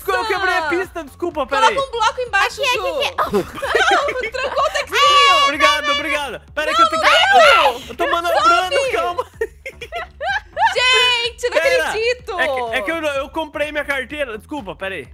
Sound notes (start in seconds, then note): 6.8 screams; 9.6 laughs